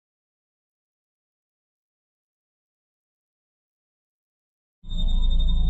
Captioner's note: long silence; suspenseful music